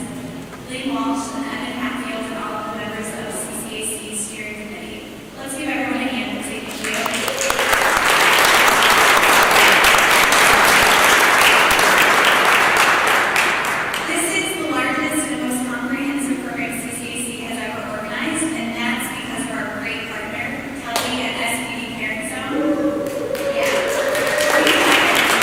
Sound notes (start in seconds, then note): 10.1 applause